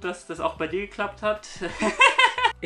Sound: laughs

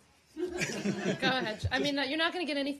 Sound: laughter

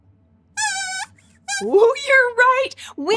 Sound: squeaks squeaks

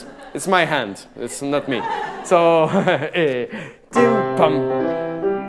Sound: laughing; singing in a foreign language

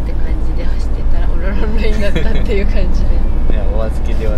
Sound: laugh

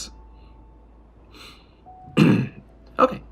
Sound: clears throat

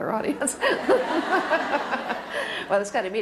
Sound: laughter

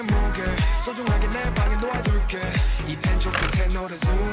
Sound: water flowing

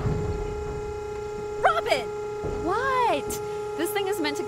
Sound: trash compactor crushes garbage

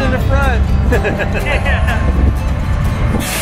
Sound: laughing

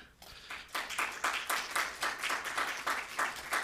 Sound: applause

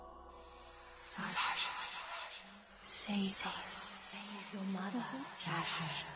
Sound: mysterious echoing

